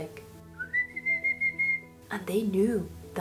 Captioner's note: whistling